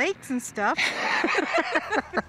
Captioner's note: both laugh